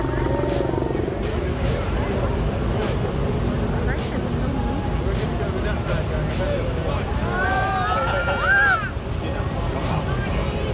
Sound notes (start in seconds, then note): 0.2 crane sounds and background chatter + music; 7.2 people scream